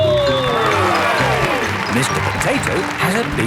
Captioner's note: cheering